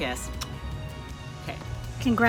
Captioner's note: smacks lips